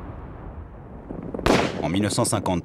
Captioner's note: shooting